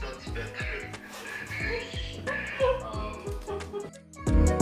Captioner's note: laughter